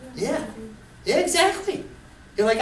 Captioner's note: voiceover